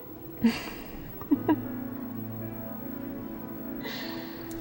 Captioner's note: chuckles